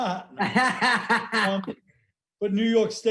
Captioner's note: laughing